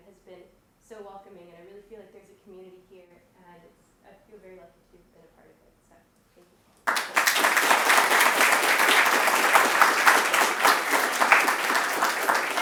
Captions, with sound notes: has been so welcoming. I really feel like there's a community here. And I feel very lucky to have been a part of it. So thank you. [APPLAUSE]